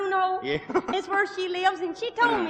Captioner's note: laughing